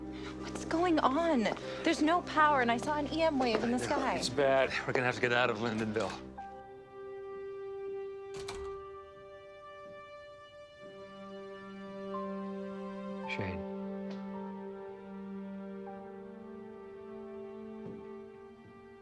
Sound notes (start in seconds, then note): 8.3 door open close; 10.2 bowed string instrument